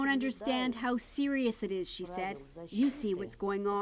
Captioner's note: speaking Foreign Language